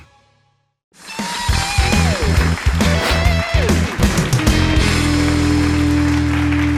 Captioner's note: audience applauding; lively blues-rock music